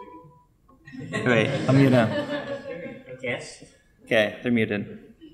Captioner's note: audience laughing